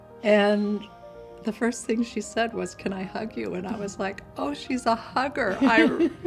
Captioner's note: laughs